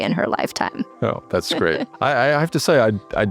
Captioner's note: laugh